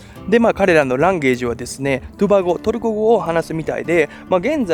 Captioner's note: Turkish